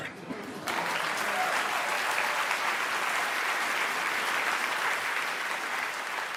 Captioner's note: applause